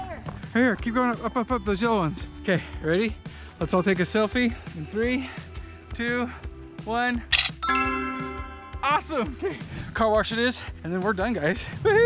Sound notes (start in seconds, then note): 7.3 camera flashes